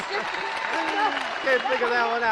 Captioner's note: laughing, audience applauds